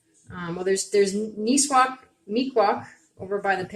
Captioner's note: speaking Abenaki